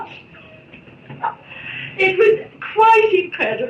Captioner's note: laughs